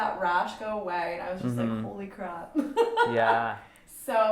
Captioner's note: laughs